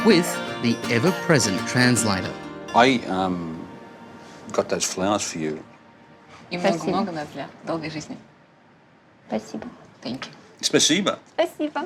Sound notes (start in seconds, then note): 6.5 speaks ukrainian